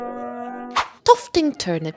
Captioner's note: swish